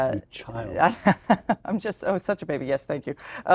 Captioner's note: laugh